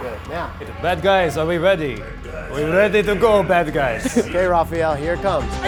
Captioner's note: in very bad Russian accent